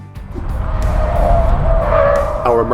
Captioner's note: tires screeching